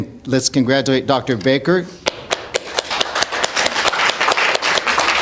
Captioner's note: clapping